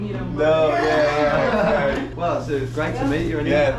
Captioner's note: all laugh